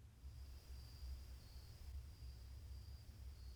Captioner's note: crickets